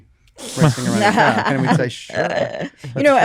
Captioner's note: laughter